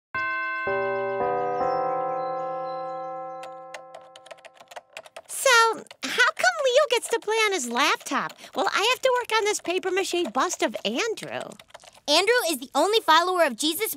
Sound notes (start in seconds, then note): 0.1 bells chime; 3.7 computer keys clicking